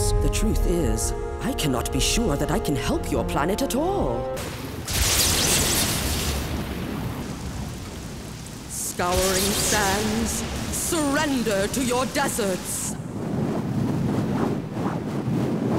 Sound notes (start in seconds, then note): 4.8 lightning zapping; 12.8 wind blowing